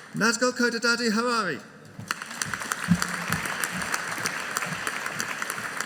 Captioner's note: audience applauding